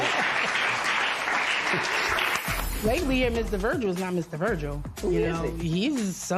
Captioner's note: applause